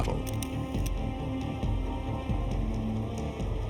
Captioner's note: camera shutter flashing